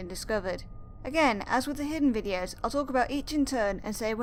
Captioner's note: none